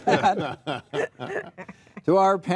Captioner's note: group laughing